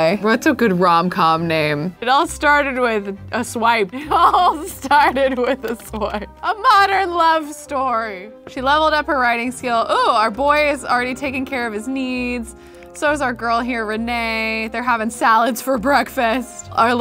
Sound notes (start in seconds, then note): 5.8 laughing